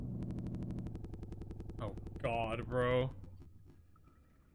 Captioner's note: audio stutters